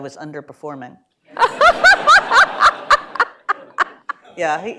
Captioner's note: laughter